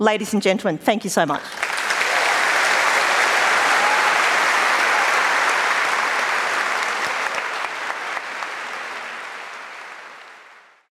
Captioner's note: applause